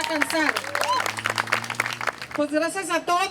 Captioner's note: applause